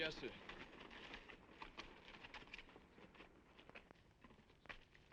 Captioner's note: horse hooves clopping